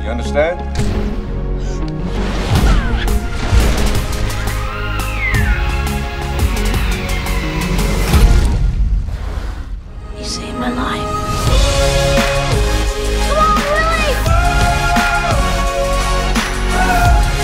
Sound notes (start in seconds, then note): 1.5 gasping; 2.0 splashing; 4.4 inspirational music; 12.1 inspirational music; 14.3 inspirational music